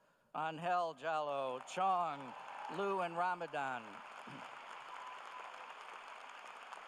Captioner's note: cheers and applause